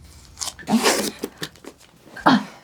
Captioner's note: sound of tearing tape